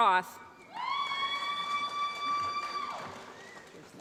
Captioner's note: applause